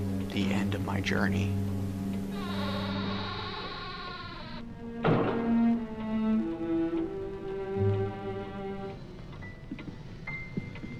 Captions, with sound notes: The end of my journey. (Door creaks closed) (Eerie music)